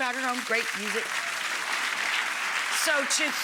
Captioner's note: audience clapping